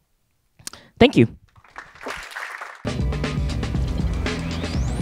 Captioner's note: applause